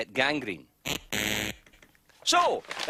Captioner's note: razzing sound effect